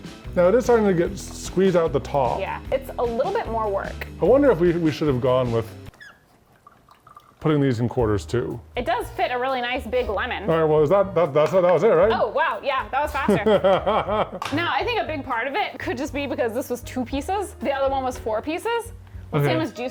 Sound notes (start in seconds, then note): 5.9 machine squeaking; 10.8 light music; 14.8 laughs